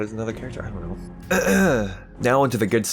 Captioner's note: clears throat